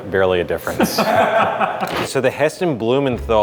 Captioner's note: laughing